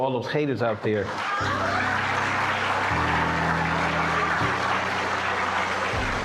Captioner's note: audience cheering and applauding